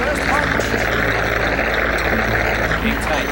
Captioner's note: crowd applauds